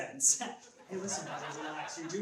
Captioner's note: laughs